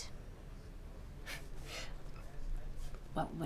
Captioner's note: chuckles